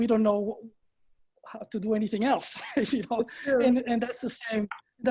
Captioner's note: laughing